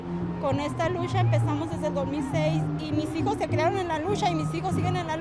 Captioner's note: speaking in foreign language